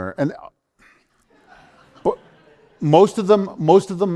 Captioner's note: laughter